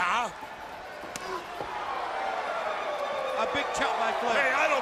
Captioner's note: crowd chatter